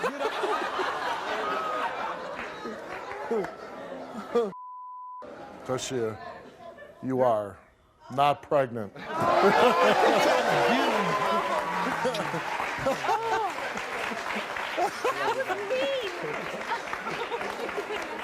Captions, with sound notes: (laughing) - Taschia, you are not pregnant. - Oh God, don't do that to me. (Steve laughing) That was mean (laughs).